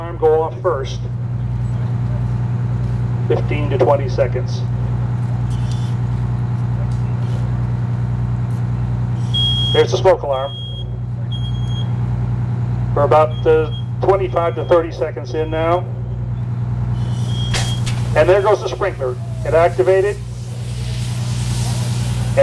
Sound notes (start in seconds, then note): 9.2 beeping